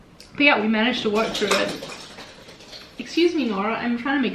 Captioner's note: cat bell ringing